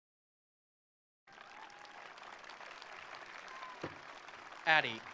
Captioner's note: attendees applauding; attendees cheering